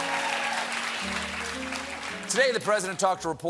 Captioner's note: applause